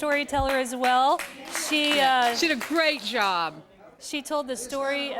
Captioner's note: �applause�